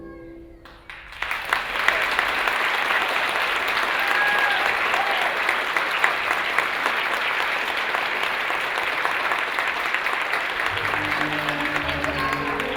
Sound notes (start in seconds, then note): 0.6 applause